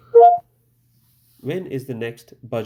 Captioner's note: computer beeps